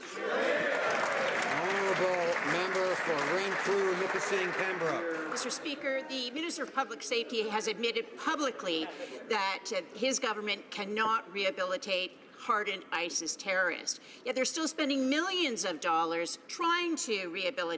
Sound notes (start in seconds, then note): 3.9 some Applause